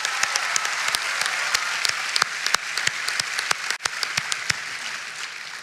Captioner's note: applause